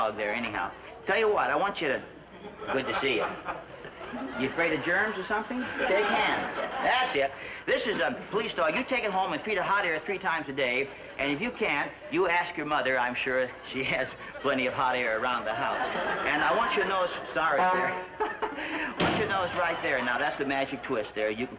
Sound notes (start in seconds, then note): 16.5 horn honks